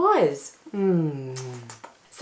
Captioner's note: affectionate and kissing noises